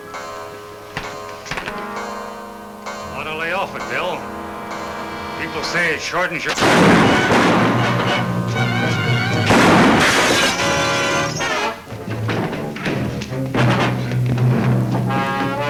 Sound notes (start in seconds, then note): 0.3 clock chimes; 5.4 speaker cut off by gun banging; 7.5 exciting music; 7.5 gun bangs